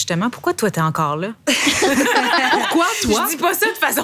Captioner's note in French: rires